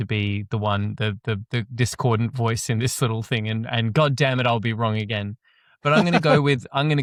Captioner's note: laughs